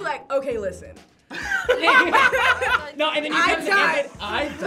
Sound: laughs

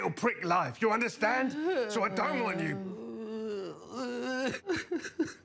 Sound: crying

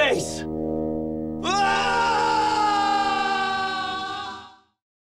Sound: screaming

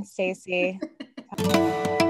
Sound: laugh

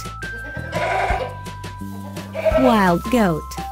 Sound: wild Goat sound

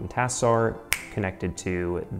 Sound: snaps fingers

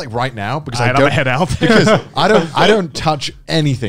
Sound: laughs

